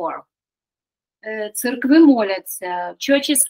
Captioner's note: Ukrainian